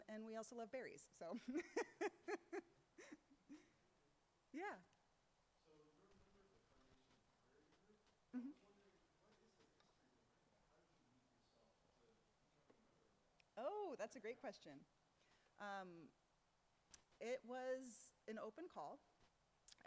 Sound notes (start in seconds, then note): 1.4 laughs; 7.6 speaks faintly; 11.2 speaks faintly